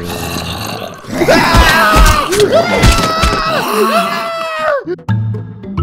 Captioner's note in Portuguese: gritos